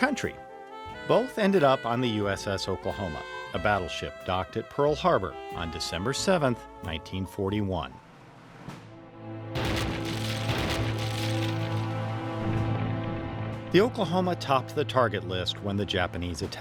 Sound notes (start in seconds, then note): 9.5 bomb blasts